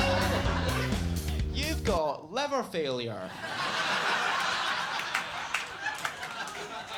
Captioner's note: audience laughing